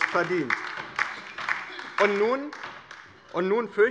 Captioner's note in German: Beifall bei der LINKEN